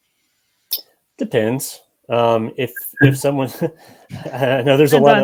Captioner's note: chuckles